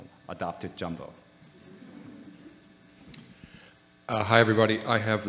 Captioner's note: audience laughing